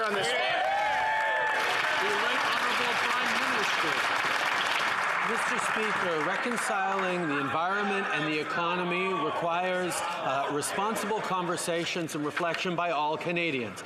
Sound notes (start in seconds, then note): 3.9 some Applause